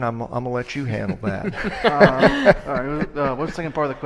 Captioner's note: laughing